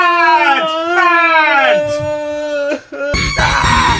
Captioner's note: monster whimpering; intense music